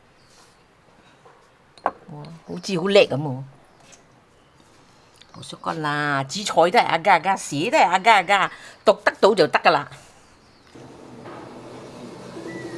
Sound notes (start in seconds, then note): 2.4 Cantonese; 5.3 Cantonese